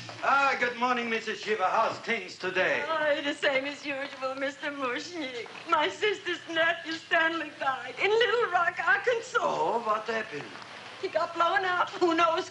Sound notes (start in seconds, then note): none